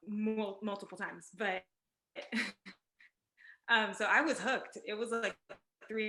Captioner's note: laughs